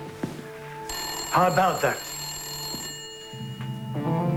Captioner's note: ringing continues